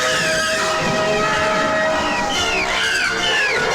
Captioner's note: eerie music; Connie screaming; eerie music; Connie screaming